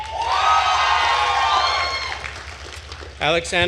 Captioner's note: attendees cheering and applauding